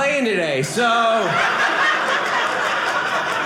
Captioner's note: audience laughing